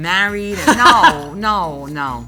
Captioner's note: laughing